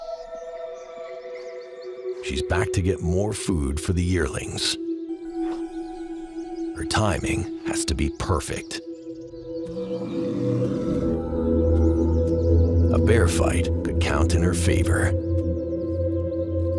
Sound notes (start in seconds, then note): 9.5 bears growl